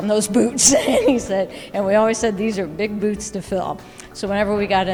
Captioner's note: laughs